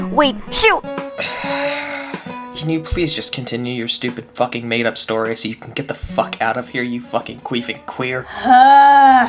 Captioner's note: sighhhh